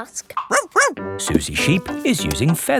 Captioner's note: barks